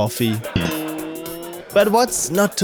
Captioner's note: laughter